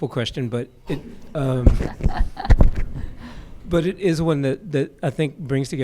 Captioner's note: laughter